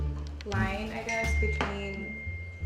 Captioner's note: ding